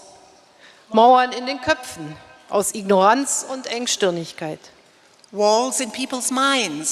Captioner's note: speaking in German